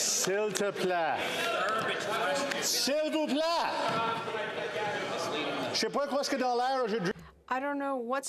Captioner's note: speaking French